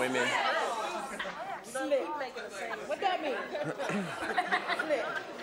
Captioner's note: audience chatter